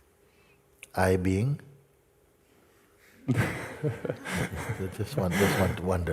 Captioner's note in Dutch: gelach